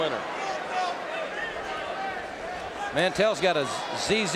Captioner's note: audience cheering